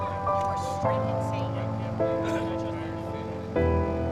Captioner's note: people chatting